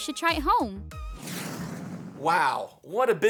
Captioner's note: rocket whooshing